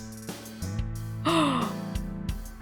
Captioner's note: gasps